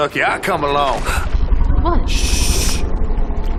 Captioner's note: gasps